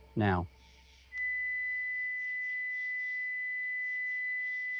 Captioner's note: high-pitched tone sounds